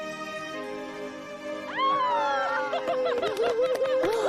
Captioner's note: cheering, clapping